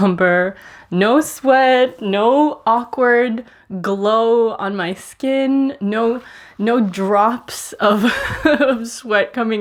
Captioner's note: laughing